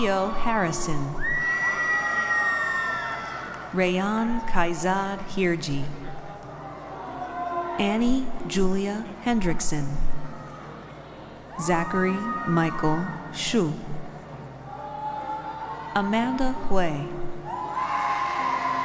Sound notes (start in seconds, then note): none